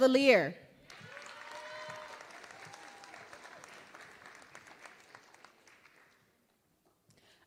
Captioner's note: applause